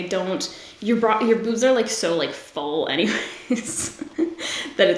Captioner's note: laughs